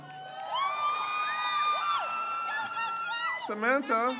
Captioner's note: crowd cheers